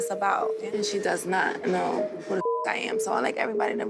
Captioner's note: beep